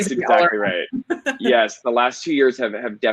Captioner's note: laughing